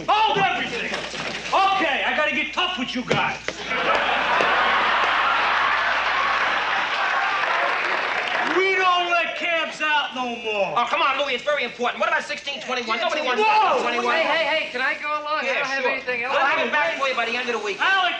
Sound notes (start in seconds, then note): 3.6 audience laughing loudly